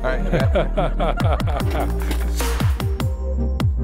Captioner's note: electronic music; all laughing